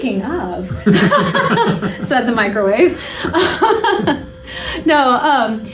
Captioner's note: laughter; laughter continues